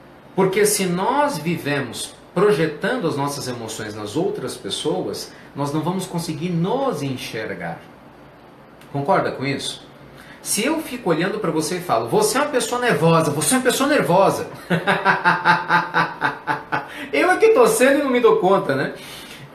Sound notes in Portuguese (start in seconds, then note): 14.5 risos